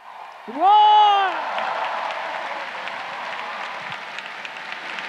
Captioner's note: crowd cheering